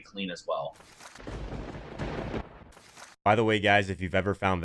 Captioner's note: thunder rumbling